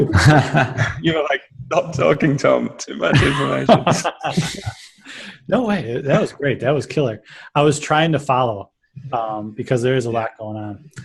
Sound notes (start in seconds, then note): 0.0 laughter; 3.1 laughter